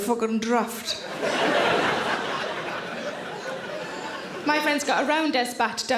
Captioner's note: audience laughing